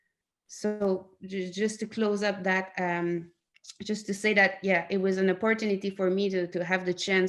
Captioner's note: in English